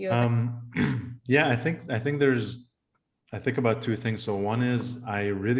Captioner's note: cough